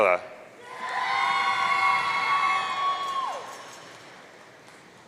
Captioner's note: audience cheering